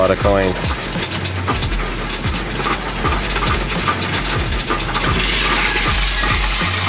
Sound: upbeat music; coins rattling

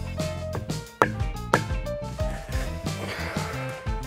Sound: hammer thunks

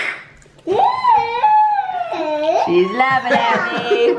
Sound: toddler laughs; everyone laughs

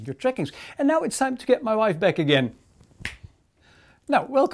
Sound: snaps

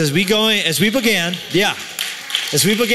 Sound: applause

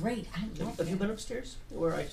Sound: voiceover

